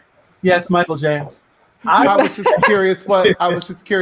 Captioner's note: group laughing loudly